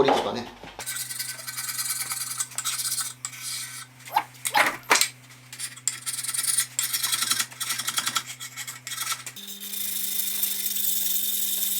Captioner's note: working sound